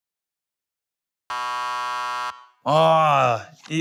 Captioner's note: buzzer